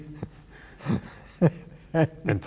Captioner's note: laughter